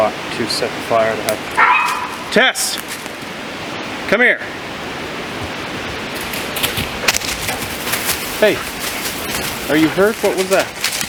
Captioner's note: yelps